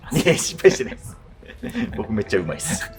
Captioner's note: laughing